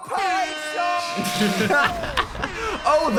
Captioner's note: both laughing